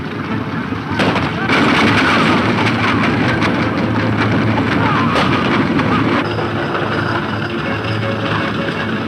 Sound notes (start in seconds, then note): 1.0 gunshot; 1.4 running hoof beats